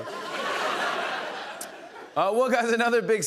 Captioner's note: laughter